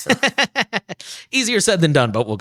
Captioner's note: laughs